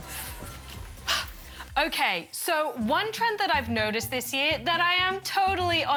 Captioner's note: puffs